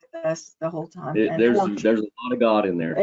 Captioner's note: audio distortion